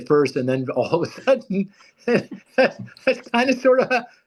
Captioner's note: laughs loudly